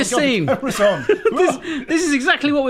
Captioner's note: laughing